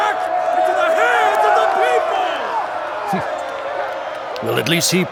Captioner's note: A mixture of excited shouts and BOOs rise up